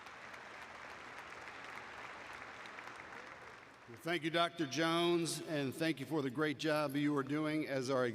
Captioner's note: applause